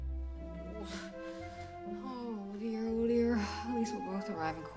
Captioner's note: sighs